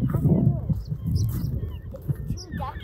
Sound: chirping

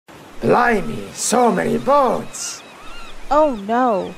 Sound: seagulls and waves crashing

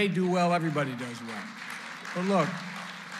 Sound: applause

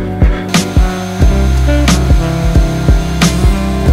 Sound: saw grinding

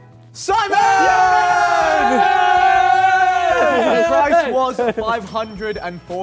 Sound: Simon's team cheers

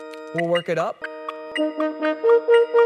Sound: metronome beats

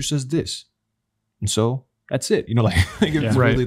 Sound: chuckles

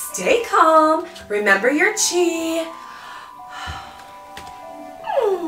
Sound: calmly sighs

